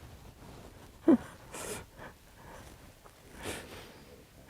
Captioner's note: sobbing